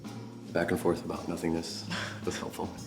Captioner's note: laughs